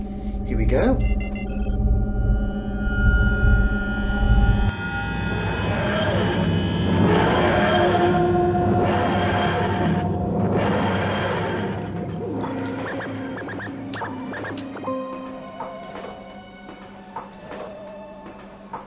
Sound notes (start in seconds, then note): 4.9 sound of a TARDIS dematerialising; 12.6 various console beeps